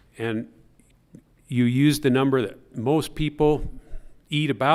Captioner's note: none